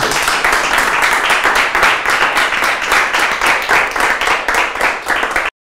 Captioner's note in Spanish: aplausos